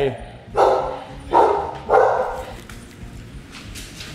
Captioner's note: dog barks